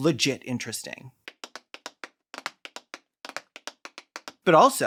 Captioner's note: adult woman tap-dancing